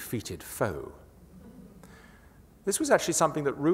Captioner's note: laughter